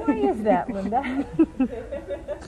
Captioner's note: laughter